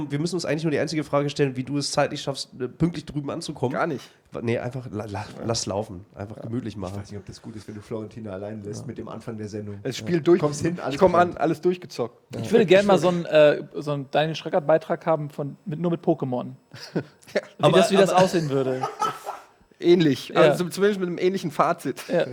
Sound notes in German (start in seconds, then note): 18.8 lacht; 22.0 Die lachen